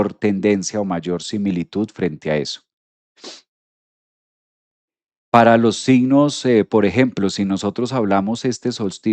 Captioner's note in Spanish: resoplido